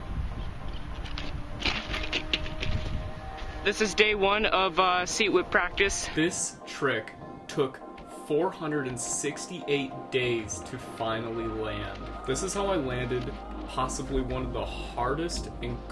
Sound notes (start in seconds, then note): 0.7 lighthearted music; 1.6 crashing